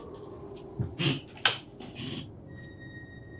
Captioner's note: switch flips